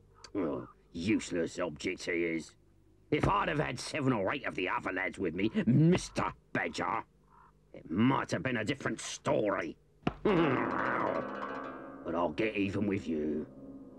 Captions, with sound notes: - Oh, useless object, he is. If I'd have had seven or eight of the other lads with me, Mr. Badger, it might have been a different story. [Chief Weasel grumbles] [suspenseful music] But I'll get even with you.